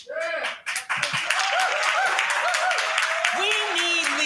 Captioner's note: crowd cheering